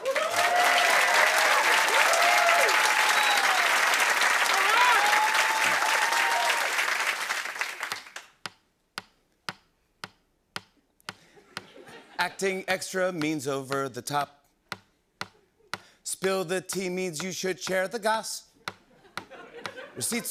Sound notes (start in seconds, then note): 0.0 cheers and applause; 8.3 tapping